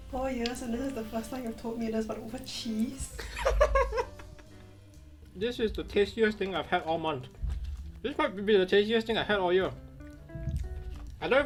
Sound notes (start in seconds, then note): 3.1 chuckles